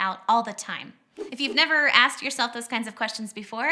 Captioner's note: whooshing